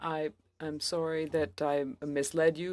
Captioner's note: speaking french